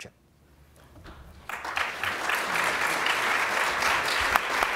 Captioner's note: applause